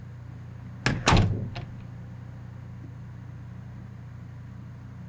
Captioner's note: door bangs shut